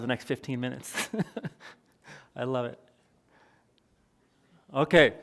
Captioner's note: chuckles